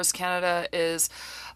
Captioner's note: speaking French